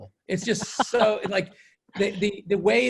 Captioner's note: laughter